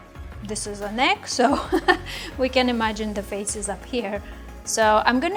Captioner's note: laughs